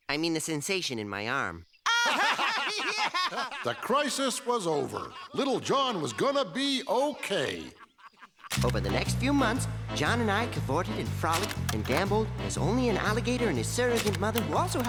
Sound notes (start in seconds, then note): 1.8 laughing